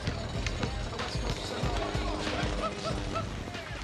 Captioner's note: ball bouncing, chatter